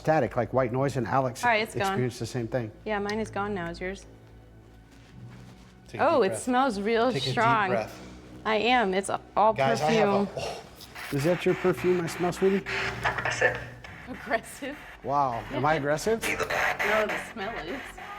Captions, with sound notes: - like white noise and Alex. - All right it's gone. - Experienced the same thing. - Yeah, mine is gone now. Is yours? Oh, it smells real strong. Take a deep breath. - I am, it's a perfume. - Guys I have a... Is that your perfume I smell sweetie? [spirit box scans] [spirit box voice] - Aggressive? - Wow, am I aggressive? No, the smell is.